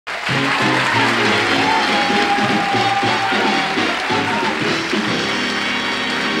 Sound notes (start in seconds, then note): 0.0 audience applause